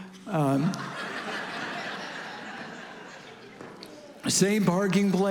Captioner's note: congregation laughing